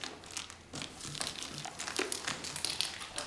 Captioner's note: crackling